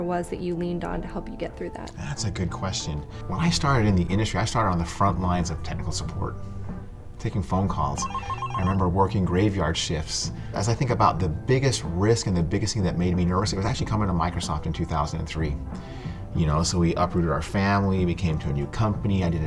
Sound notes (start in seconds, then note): 8.0 phone rings